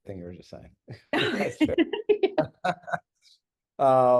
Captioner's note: laughing